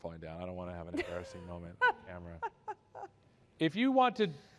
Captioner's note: laughter